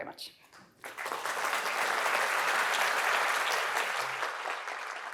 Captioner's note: audience applauding